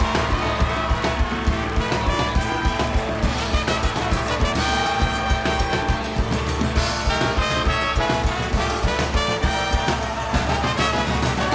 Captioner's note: applause